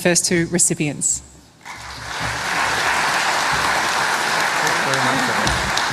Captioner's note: laughter